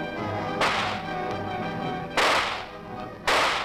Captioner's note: gun shots